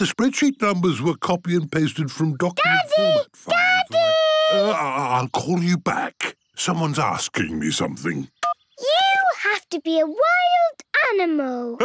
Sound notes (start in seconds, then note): 8.2 phone beeps